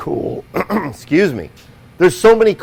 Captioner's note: clears throat